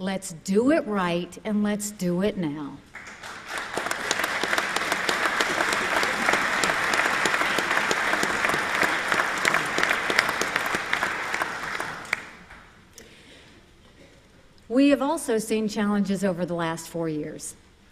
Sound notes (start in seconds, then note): 8.5 applause